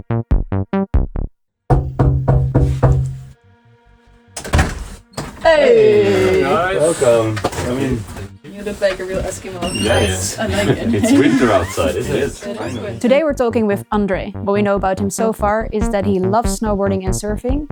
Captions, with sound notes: [knocking] Hey! Welcome. I mean... You look like a real Eskimo. Yeah, yeah. It's winter outside, it is. Today we're talking with Andre. What we know about him so far is that he loves snowboarding and surfing.